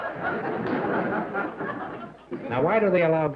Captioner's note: laughter